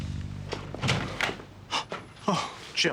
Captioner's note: door opens; gasping